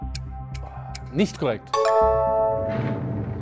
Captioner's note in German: Klingeln